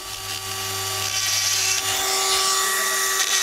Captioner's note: whring